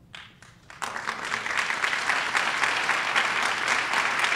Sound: applause

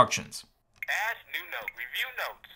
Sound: voiceover

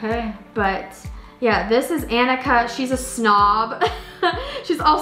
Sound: laughs

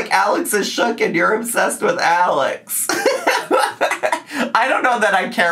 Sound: laughs

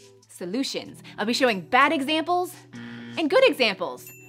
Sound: buzzing; chiming

